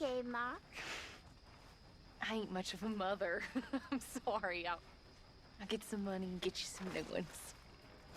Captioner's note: laughs